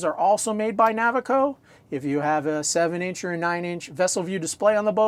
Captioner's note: none